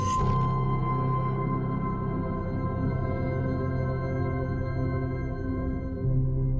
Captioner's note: mechanical whir